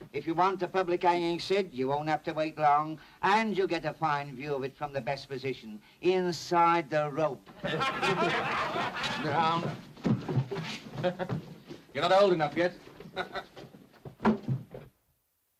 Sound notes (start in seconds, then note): 7.5 laughter